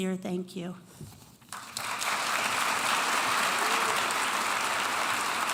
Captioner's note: audience applauding